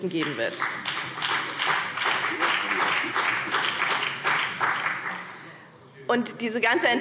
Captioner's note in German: Beifall BÜNDNIS 90/DIE GRÜNEN